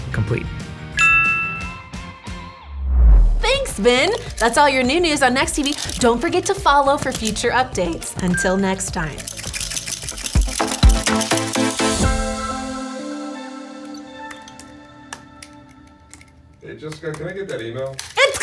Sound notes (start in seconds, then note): 1.0 chime ringing; 9.1 clicking; 11.9 upbeat music